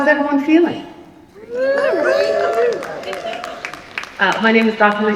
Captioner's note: cheering